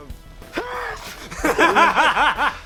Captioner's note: sneeze